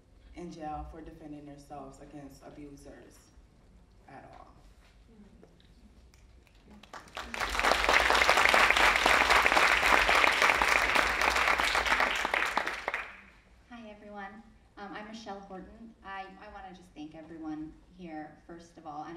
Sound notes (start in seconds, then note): 6.7 audience applauding